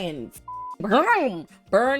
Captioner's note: beep